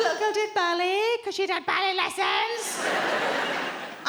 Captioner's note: mockingly